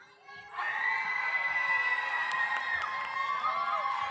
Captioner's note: audience cheers